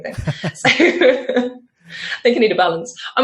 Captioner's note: laughs